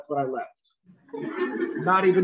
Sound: laughter

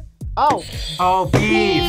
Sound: buzzer rings

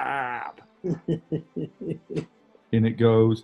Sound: chuckling

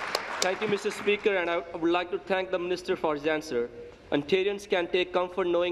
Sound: applause

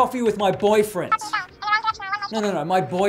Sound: cartoonish phone speech

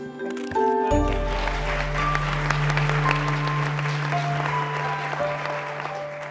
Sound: applause

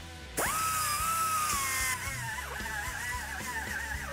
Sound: machine whirring

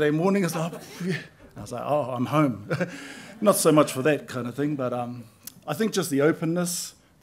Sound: chuckles

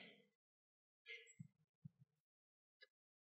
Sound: silence

